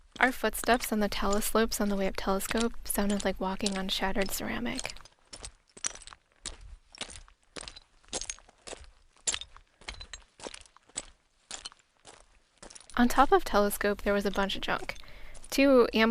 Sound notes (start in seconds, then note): 4.7 footsteps audio